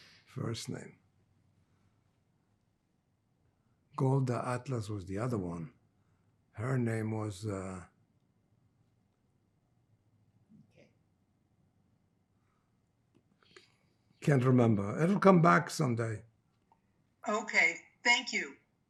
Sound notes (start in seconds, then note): 7.9 pauses 6 seconds